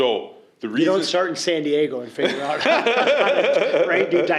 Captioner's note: laughter